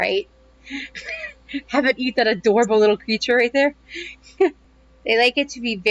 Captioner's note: laughter